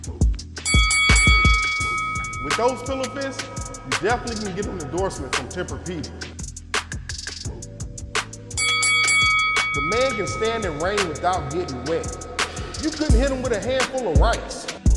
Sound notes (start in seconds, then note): 0.7 bell dinging; 6.6 upbeat music; 8.6 bell dinging; 14.8 upbeat music